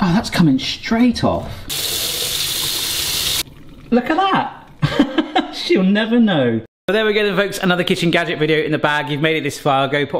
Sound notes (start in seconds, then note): 1.7 water gushing; 4.8 chuckles